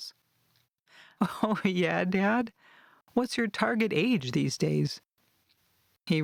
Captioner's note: chuckles